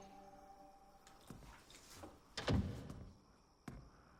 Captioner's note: insects buzzing